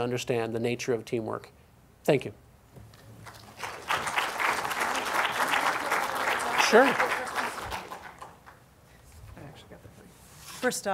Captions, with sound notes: understand the nature of teamwork. Thank you. (audience applauds) (applause drowns out speaker) Sure.